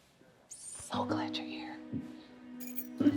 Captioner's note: Mavis whispering